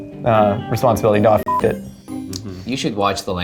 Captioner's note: beeps